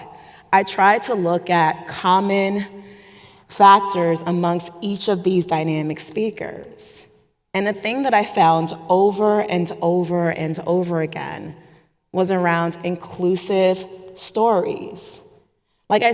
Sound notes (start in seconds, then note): none